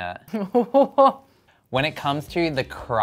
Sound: laughing

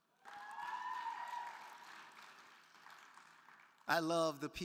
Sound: crowd cheering

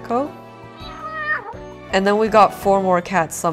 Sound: cat meow

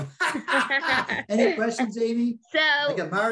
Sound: participants laughing

